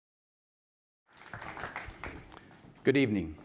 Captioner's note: audience applauding